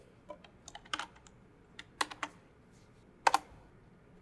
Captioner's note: typing